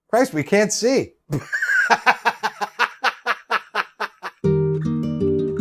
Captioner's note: laughs